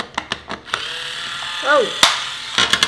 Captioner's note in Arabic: الطنين الطوقان